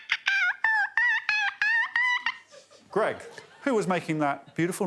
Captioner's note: Victoria chirps